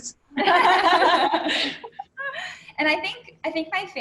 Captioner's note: laughter